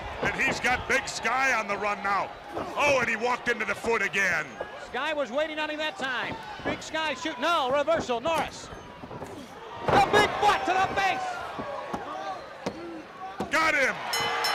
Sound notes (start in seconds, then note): 7.7 crowd chatter; 10.5 bell ringing